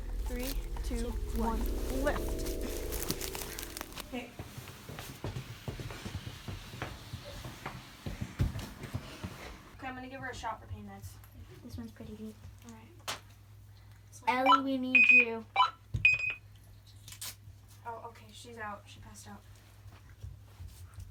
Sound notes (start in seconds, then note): 2.9 sticks crackle; 6.0 footsteps patter